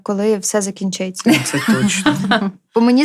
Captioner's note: laughter